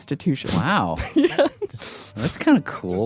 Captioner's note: laughs